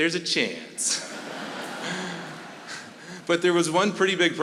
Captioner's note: audience laughing